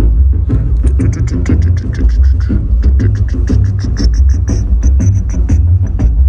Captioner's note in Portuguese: cantarola